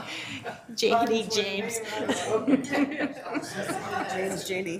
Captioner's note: laughs